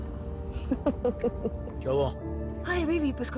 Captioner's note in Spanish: Risas